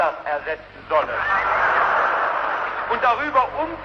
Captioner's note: laughter